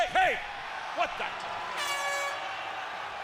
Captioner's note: crowd cheering